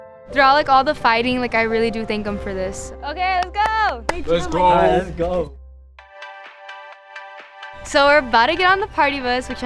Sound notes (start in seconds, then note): 3.4 clapping; 6.0 upbeat music